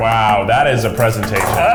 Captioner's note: clapping